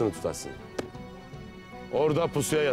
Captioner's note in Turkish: El vurma sesi